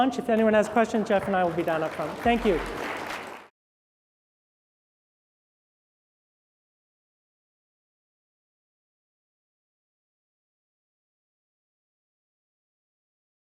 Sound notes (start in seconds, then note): 2.6 applause